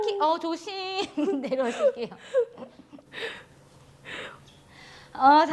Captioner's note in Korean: 웃음